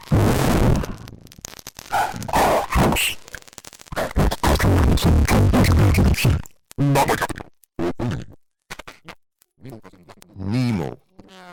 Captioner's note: glitch, distortion, echoes and delays